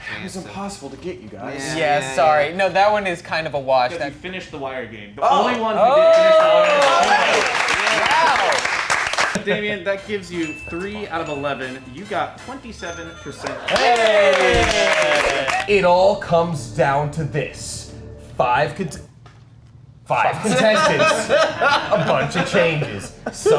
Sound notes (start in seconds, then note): 6.0 everyone clapping; 13.5 movers cheering